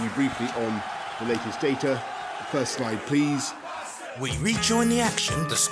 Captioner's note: crowd chant 'You Fat bastard'